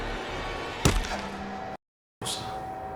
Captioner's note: dramatic music; mallet thuds